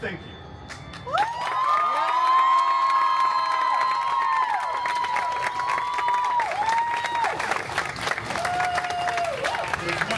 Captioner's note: guests cheering and applauding